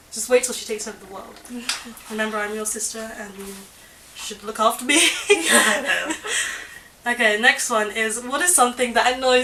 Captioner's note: laughter